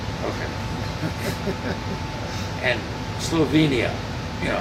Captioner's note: laughing